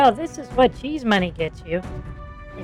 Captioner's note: sarcastically